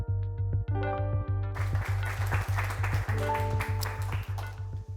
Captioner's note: music & Applause